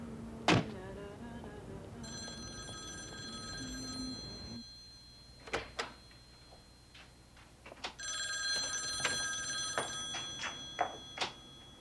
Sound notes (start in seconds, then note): 2.0 phone ringing